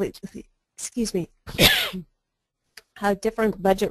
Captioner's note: cough